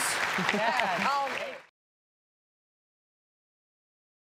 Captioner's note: audience clapping